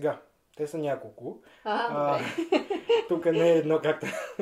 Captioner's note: laughs